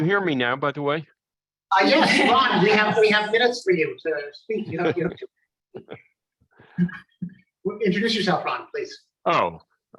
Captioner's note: laughter